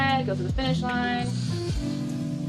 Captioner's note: claps